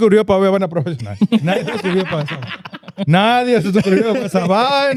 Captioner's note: speaking Spanish; laughter